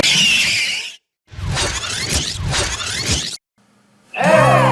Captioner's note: video rewinding; wheels screeching